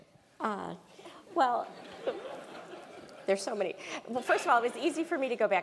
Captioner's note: laugh